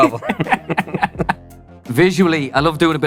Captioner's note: laughs